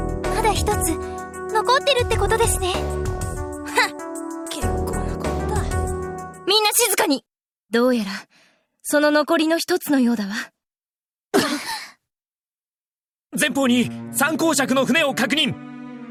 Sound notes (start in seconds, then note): 4.0 dismissive huff; 12.1 gasp